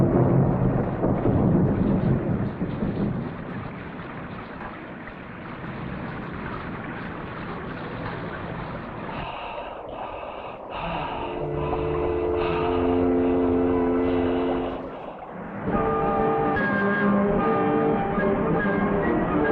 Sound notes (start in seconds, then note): 4.6 liquid trickling; 9.3 Pepe huffing; 11.7 ominous music; 15.6 upbeat orchestral music